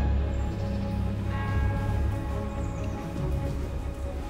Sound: bell tolls

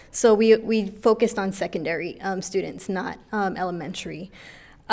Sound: none

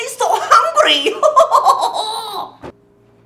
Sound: casually laughs like stereotypical asian

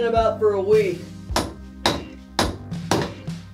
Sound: more pounding

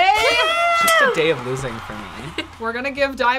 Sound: party horn blows

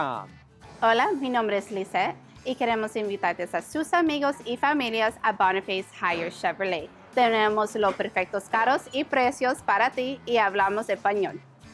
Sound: Spanish

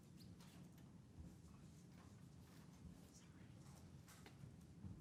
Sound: people chattering softly

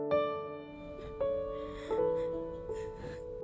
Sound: sobbing

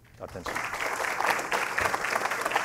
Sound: applause

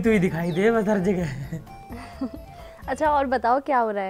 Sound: chuckles

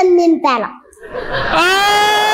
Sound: laughter

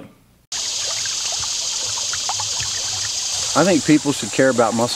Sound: water flowing

